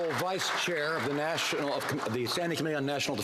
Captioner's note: some Applause